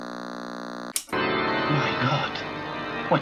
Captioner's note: Static